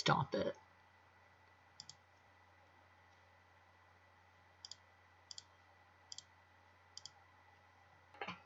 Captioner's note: mouse clicking